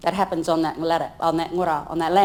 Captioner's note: speaks in foreign language